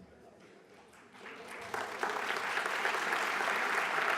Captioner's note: applause